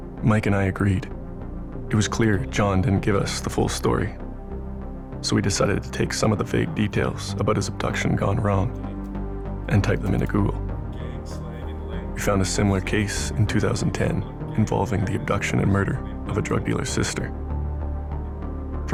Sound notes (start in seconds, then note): none